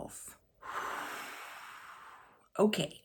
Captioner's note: sighs